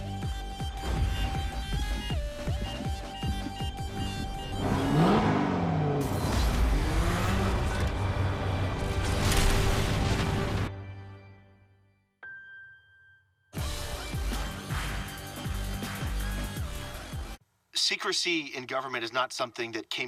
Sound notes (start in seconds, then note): 13.0 silence